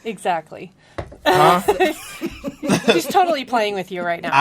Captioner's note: laughs